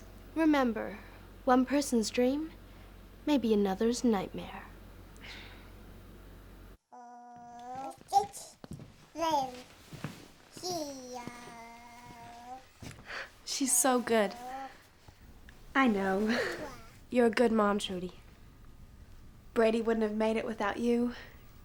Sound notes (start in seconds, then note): 5.2 sighing; 6.9 babbling